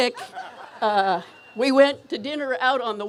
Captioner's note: laughter